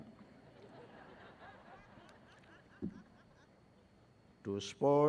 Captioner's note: graduates laughing